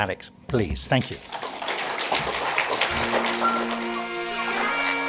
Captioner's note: audience applauding